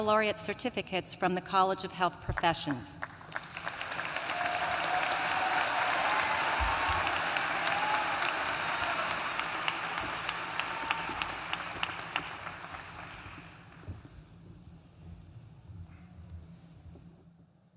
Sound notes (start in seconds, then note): 2.9 applause